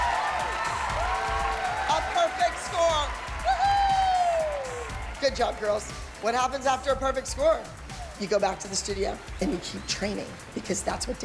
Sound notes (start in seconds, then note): 0.0 whooping